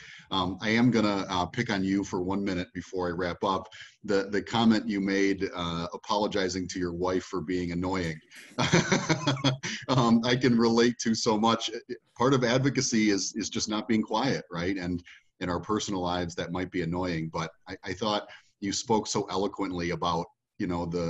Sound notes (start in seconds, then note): 8.3 laughing